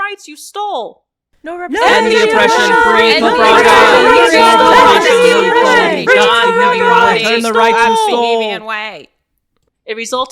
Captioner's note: another custom recording of people shouting these three slogans